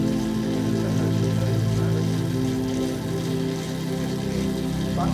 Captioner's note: indistinct conversation